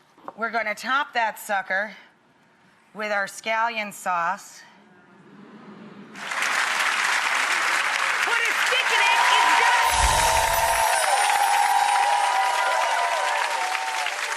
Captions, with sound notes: We're gonna top that sucker with our scallion sauce. (audience claps) What a stickening it does! (audience clapping and cheering)